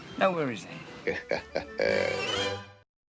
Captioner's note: chuckling